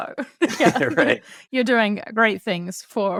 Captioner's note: laughs